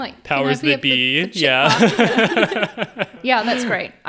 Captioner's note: all laughing